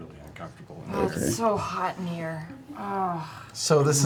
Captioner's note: groans